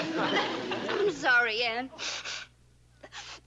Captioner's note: blows nose